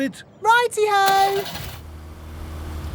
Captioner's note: car engine starts